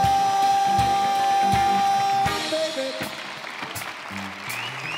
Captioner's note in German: Jubel